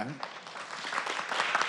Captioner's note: applause